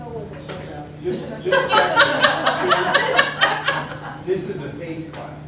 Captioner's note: everyone laughing